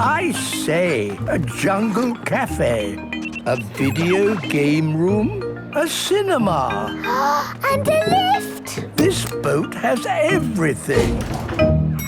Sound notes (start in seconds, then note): 7.7 gasps